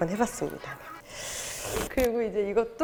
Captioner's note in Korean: 쓰읍